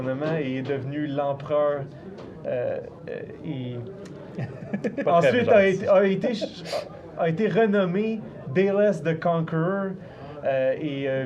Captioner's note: laughs